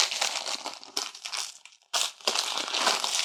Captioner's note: crackling